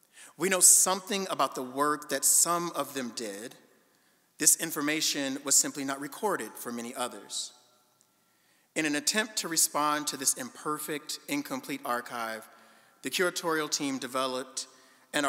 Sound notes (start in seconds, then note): none